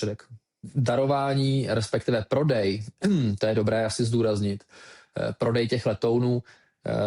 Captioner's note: clears throat